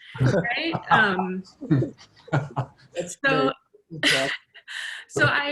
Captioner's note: laughter, interposing voices